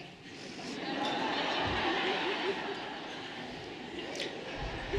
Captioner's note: everyone laughing lightly